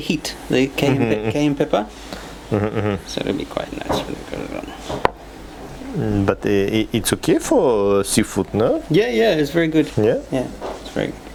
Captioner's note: they are talking in a foreign language